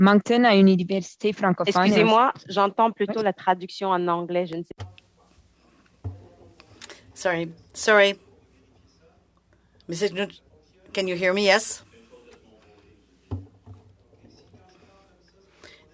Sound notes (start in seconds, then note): 2.1 speaking French